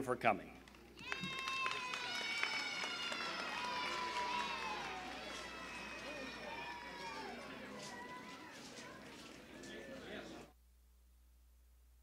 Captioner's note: applause and cheering